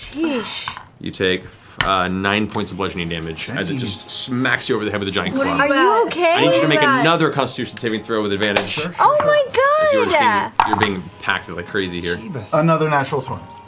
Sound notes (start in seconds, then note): none